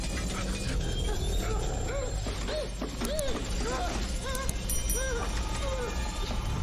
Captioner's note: blades whirring; character whimpering